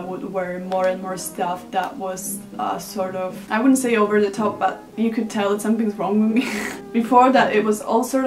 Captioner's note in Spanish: Risas